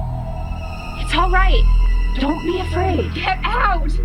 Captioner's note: voice distorted